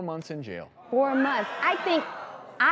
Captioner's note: audience gasps